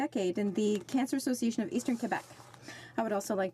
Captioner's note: speaking French